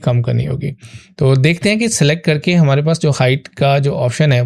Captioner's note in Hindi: नाक से की जाने वाली आवाज़